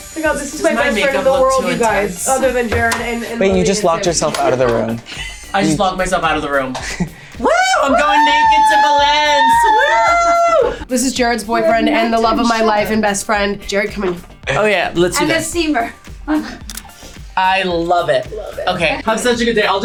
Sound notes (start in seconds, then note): 16.6 camera clicks